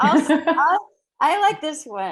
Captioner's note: laughing